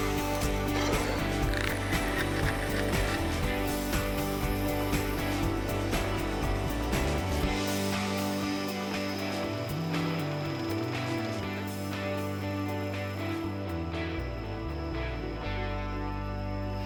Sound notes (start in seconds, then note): 1.8 fishing reel unwinding